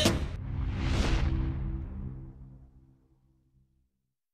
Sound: whooshing sound

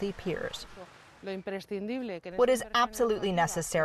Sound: speaking Spanish

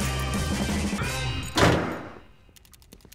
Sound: door slams

